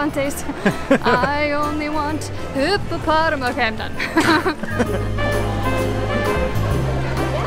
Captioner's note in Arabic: يضحك